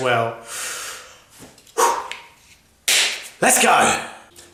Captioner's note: inhaling, exhaling